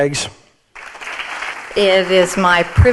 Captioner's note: audience applauding